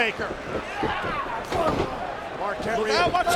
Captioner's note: body thuds